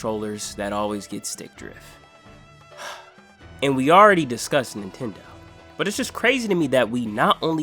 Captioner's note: sigh